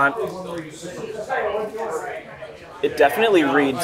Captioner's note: people chattering